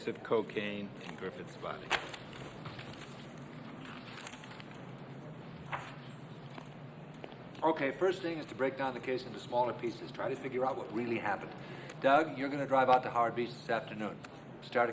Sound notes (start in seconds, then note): 1.8 paper rustles; 2.0 file slaps